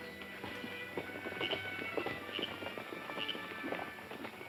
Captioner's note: horses galloping